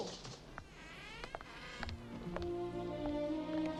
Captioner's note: door creaking; gentle nostalgic music